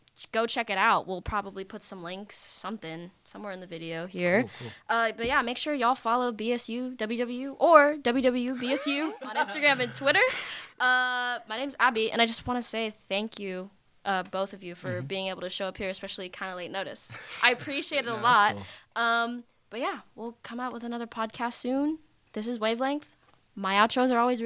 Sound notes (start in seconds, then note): 8.5 laughter; 17.1 laughter